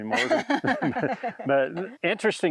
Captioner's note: both laugh